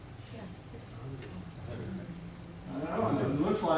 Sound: audience members mumbling

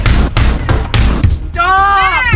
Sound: ball bangs

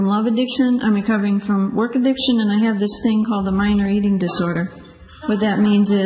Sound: group laughs

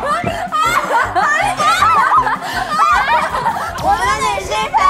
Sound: they can't stop laughing; having difficulty breathing

